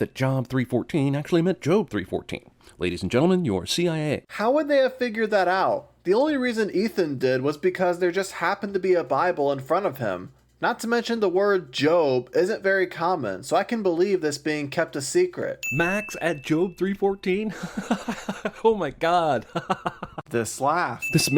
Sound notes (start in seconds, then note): 17.5 laughs